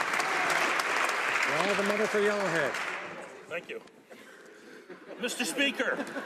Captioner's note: some Applause